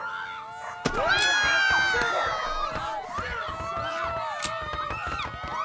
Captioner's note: women screaming